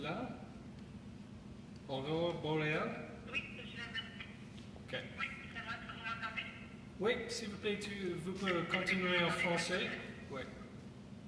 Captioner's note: speaking French